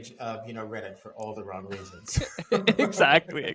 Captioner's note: laughing